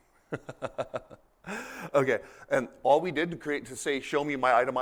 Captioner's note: laughter